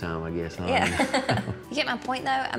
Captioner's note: laughs